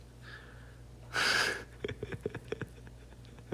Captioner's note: giggles